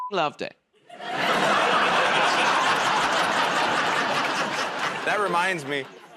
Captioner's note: laughter